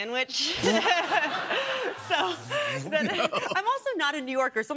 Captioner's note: laughter